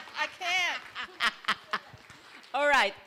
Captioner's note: laughter